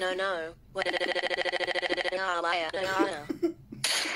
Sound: noisy and Laughs

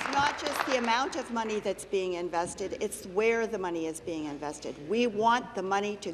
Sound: applause

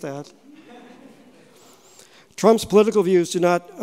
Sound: audience chuckling

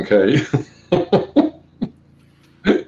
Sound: laughs

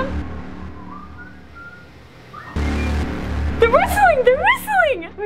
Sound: suspenseful music; man whistling

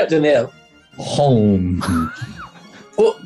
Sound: sniggering

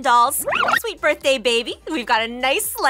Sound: tape rewinds

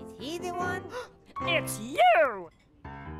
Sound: gasp

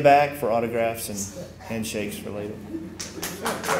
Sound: applause

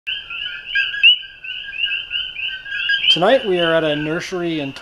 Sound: high pitched chirping

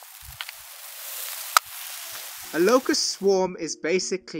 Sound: buzz of locust swarm

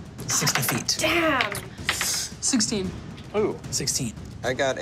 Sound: dice tapping table

